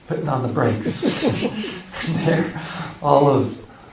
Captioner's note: laughter